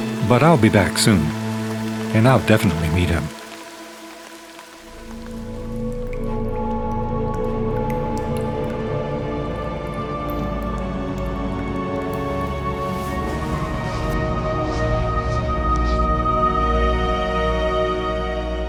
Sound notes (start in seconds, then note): 5.4 dark orchestral music; 5.4 water drips